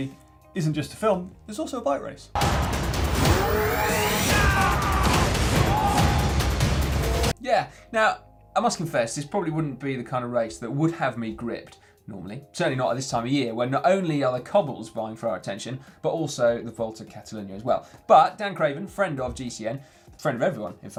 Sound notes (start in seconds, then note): 2.3 exciting music; 3.9 men shouting